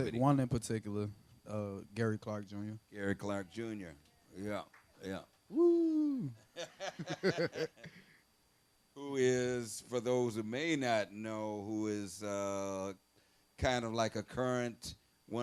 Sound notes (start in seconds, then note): 4.6 one person clapping; 6.1 both laughing